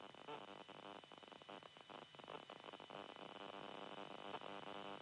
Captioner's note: static crackling